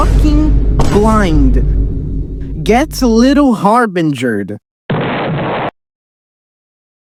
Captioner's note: explosive locust explodes on screen